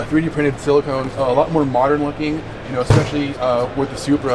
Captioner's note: none